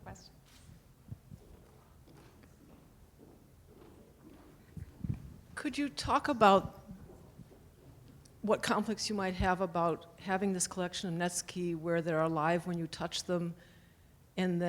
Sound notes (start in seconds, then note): 0.3 voiceover; 2.7 footsteps; 5.7 voiceover